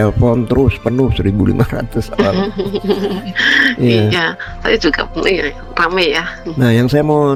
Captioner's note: tertawa